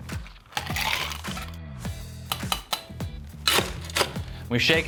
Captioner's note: ice scoop clinking